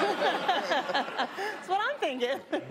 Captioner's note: laughter